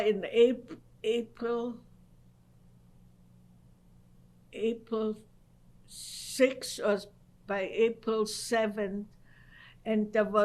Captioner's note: pauses for 3 seconds